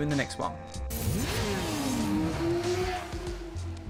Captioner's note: motorbike engine roaring; soothing music